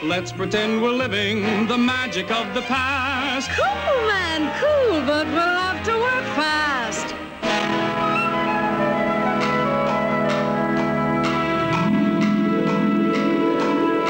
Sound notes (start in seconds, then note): 9.6 clock ticks